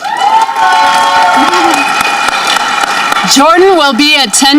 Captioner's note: audience cheering